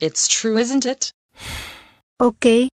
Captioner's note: sighs